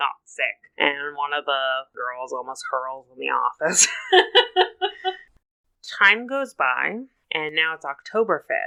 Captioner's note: laughs